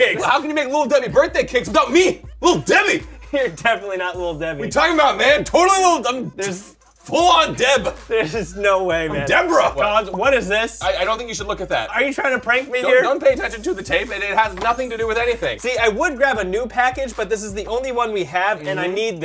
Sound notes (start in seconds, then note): 14.6 sparkle noises